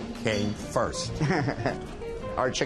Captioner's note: laughs